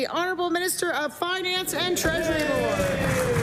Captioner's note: applause